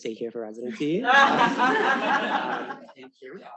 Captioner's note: all laughing